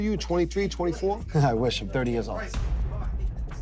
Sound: chuckling

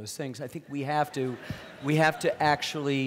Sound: audience laughing

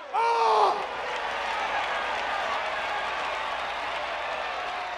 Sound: crowd applauding

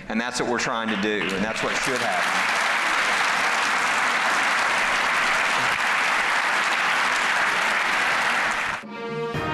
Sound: clapping

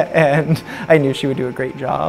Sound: light laughter

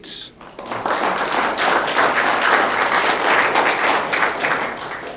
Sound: audience clapping

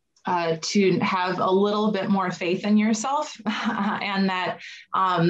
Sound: chuckles

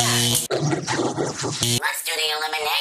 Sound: bzzt; distorted voice

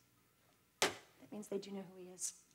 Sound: hand thuds

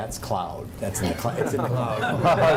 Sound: laughter

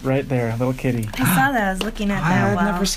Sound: gasps

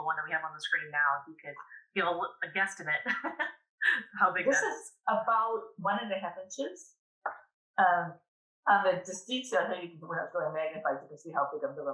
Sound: laughs

